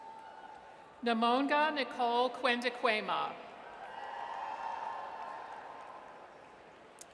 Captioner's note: audience cheers; audience cheers